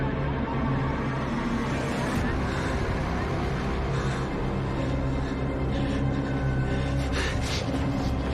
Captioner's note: none